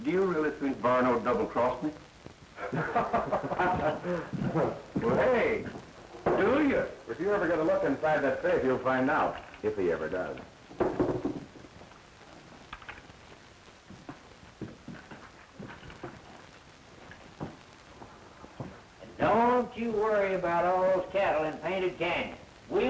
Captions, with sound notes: Do you really think Varno would double-cross me? [laughter] Hey. Do you? If you ever get a look inside that safe, you'll find out. If he ever does. And don't you worry about all those cattle in Painted Canyon.